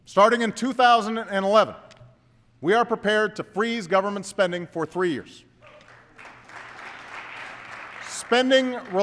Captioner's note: applause